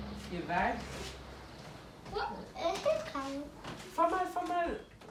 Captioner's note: chattering